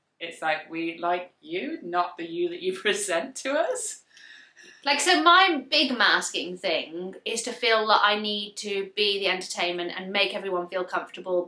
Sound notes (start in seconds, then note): none